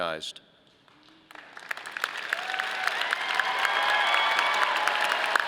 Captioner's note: audience applauding